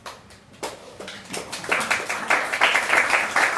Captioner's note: applause